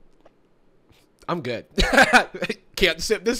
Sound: laughs

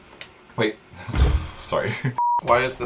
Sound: sighs

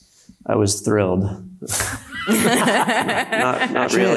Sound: panelists laughs

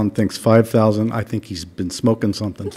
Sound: laughter

